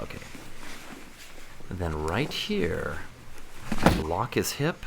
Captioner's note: loud thumping